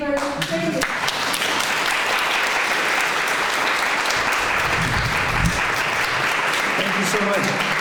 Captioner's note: clapping